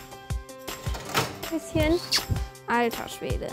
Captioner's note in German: Fröhliche Musik; Kusslaut